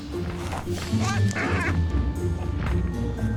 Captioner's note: bird coos